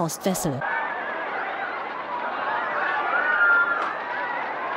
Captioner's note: panicked screaming